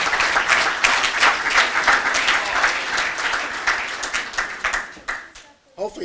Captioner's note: applause